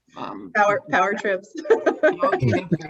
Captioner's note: laughs